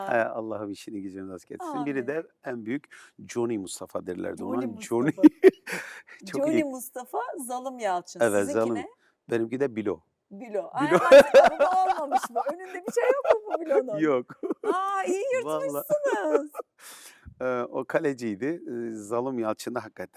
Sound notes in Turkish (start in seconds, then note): 10.8 kahkaha